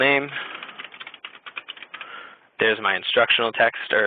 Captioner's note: typing